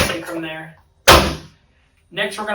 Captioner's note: table thuds